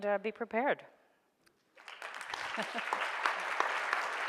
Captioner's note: audience applauds